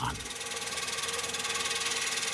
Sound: chatter

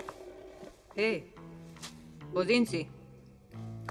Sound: in German

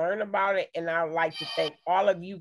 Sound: notification playing

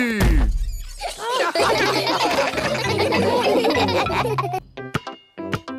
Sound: all laugh

